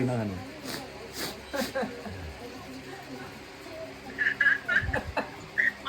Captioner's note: sniff and tears of joy!